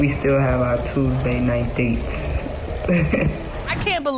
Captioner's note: chuckles